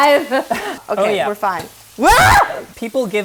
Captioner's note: screams